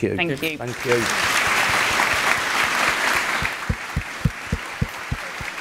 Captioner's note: applause